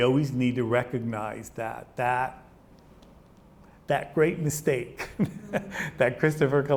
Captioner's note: laughs